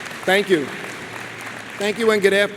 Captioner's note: crowd applauds